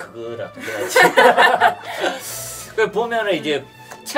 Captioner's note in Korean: 웃음